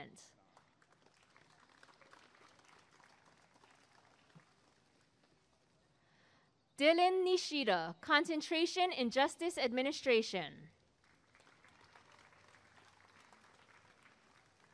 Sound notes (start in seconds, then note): 0.4 applause and cheering; 11.0 applause and cheering